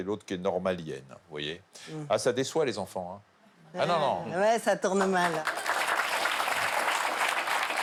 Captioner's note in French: applaudissements